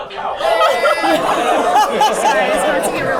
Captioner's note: laughter